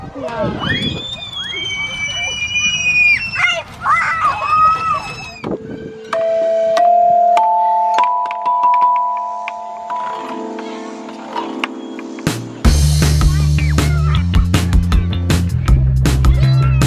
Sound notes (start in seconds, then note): 0.2 kids squeal; 5.7 xylophone tones; 12.1 lively pop-rock music